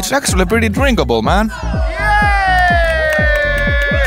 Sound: happy noises

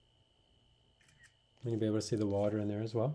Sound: camera clicks

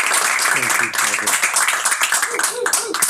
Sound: audience applauding

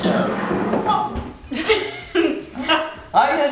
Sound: laughing

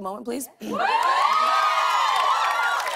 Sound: cheers and applause

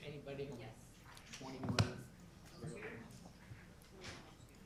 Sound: group chatter

